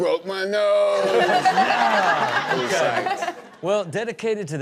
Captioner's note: everyone laughs